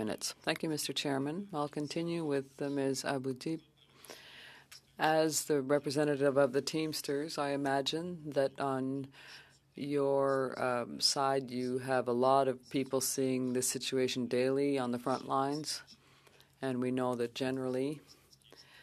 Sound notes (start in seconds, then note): 2.5 speaking French